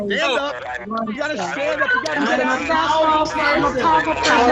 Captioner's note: people ranting